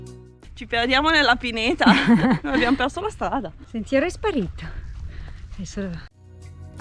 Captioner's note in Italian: risate